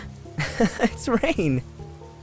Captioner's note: laughs